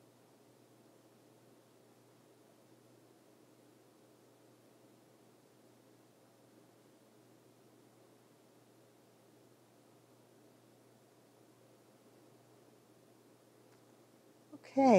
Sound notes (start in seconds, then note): none